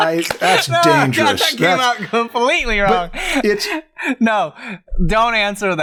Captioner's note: laughs